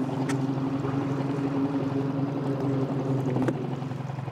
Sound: motor humming

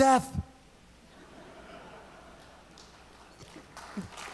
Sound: audience laughs; audience applauds

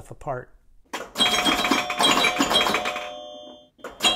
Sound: metal chiming

